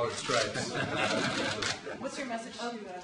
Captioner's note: laughter